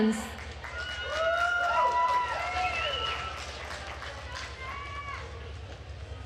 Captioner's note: attendees cheering and applauding